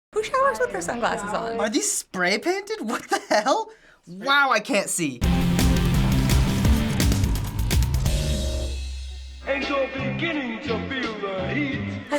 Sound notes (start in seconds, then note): 2.9 chuckles; 5.2 industrial intro